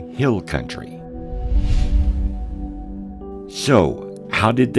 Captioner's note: air whooshing